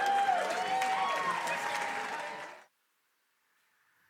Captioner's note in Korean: 박수; 환호